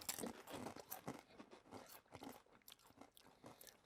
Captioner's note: both chewing